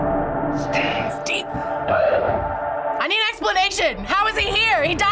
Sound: whispers

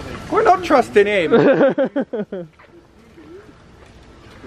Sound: laughs

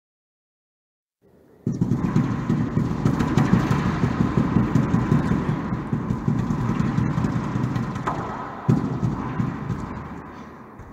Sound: sound of thunder

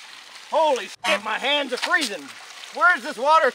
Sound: honk

